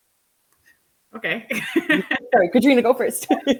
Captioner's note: laughs